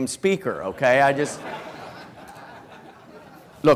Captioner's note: laughter